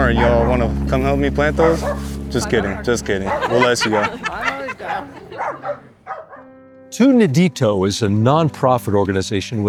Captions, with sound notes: Y'all want to come help me plant those? Just kidding, just kidding. We'll let you go. [LAUGHTER] Tu Nidito is a nonprofit organization